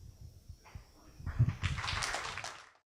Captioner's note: clapping